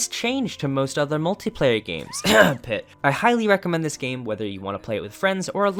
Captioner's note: cough pit cough